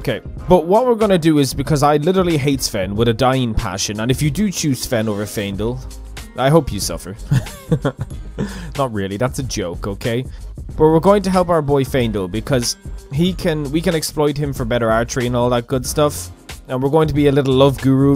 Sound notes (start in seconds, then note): 7.3 irritated chuckle